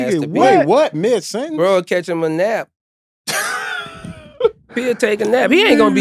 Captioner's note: chuckling